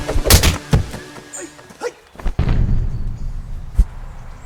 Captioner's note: kick thudding